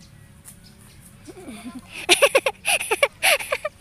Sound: laugh

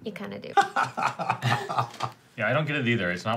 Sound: laughs

